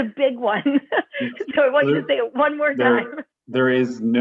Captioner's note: laughter